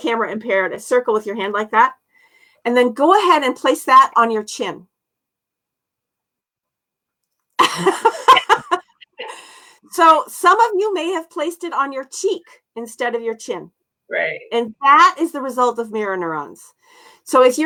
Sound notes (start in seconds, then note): 7.6 laughter